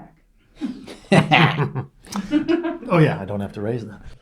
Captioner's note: laughing